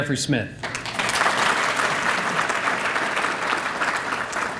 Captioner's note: applause